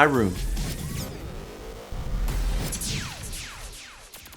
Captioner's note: jingle tone